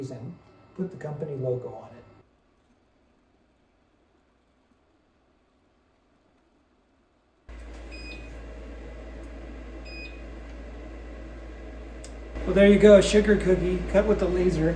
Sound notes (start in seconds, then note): 7.6 beeping